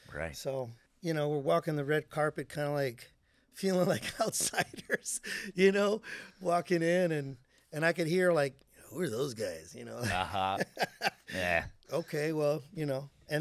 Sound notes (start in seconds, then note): 3.9 laughing; 10.0 laughing